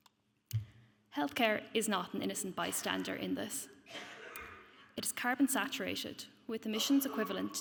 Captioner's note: coughs